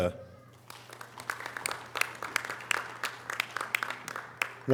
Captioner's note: audience applause